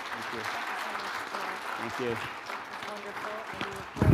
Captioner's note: audience claps